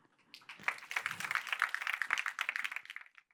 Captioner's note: applause